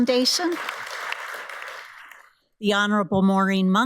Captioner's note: audience applauds